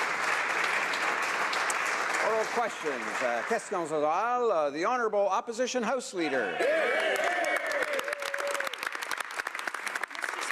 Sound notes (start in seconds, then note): 4.8 applause; 7.2 speaking French